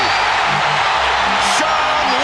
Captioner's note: cheering